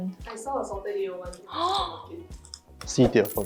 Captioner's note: gasps in excitement